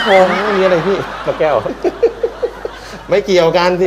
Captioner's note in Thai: เสียงหัวเราะ